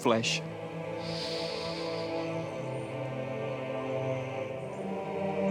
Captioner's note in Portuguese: respiração profunda